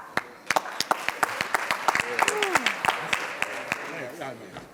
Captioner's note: audience applauds; people chattering